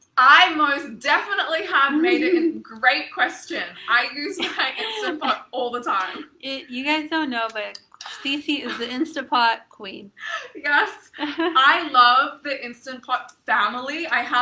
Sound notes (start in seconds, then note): 3.9 chuckles; 10.2 laughs